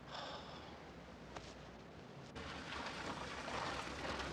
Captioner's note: Hudson sighs